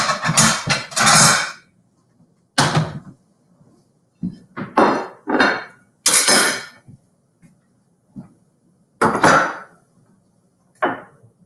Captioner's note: utensils clatter off screen